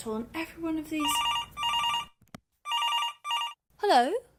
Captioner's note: phone rings